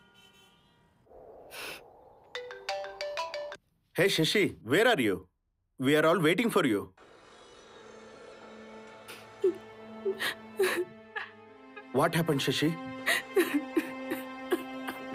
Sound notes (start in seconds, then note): 3.0 mobile ringing; 8.5 sobbing